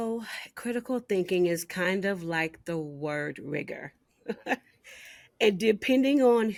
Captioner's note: chuckling